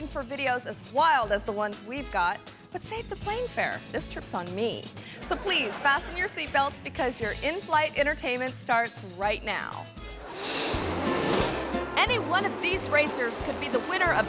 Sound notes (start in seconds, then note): 5.1 audience laughing; 10.2 air whooshes; 10.4 lighthearted music